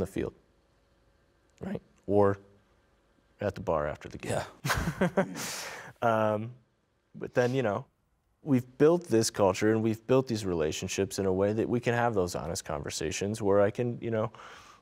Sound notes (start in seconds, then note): 4.6 laughing